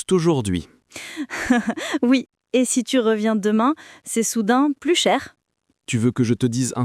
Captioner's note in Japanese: ははは！